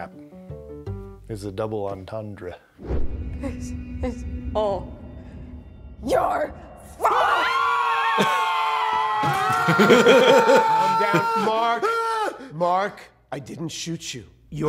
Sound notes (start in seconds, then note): 7.0 screaming; 10.1 screaming intensifies